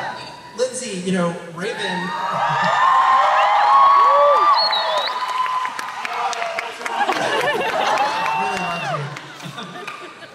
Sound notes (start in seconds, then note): 1.8 cheering